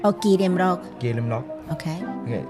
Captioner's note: Taiwanese